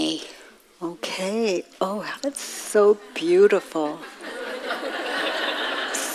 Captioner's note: audience laughs